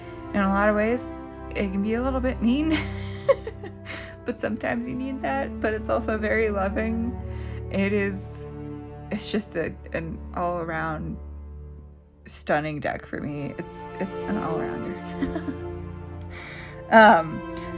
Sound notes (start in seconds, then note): 2.7 laugh; 15.1 laugh